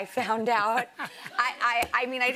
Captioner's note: laughter